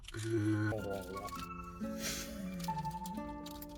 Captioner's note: gluttony sounds